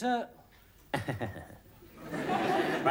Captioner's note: chuckles